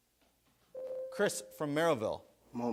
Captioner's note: buzzer sounds